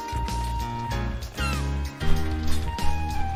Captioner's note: seagull cawing